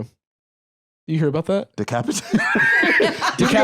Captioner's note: laughs